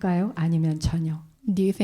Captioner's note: speaking in Korean